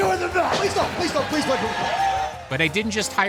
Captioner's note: crowd cheering